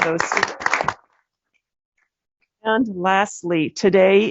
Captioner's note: applause